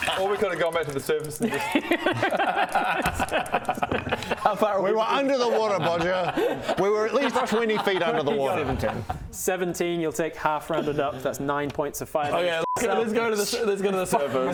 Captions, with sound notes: Or we could have gone back to the surface and just *smartest-thing-I've-heard-all-day laughter* How far away-- We were under the water Bodger! We were at least 20 feet under the water 17 17, you'll take half rounded up that's 9 points of fire damage Okay let's go to the surface